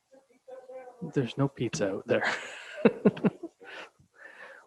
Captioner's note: chuckles